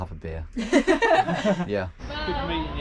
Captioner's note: girls laughing